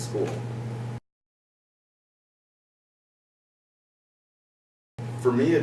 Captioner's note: silence